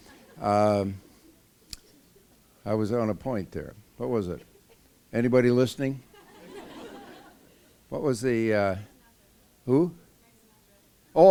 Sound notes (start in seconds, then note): 6.0 laughter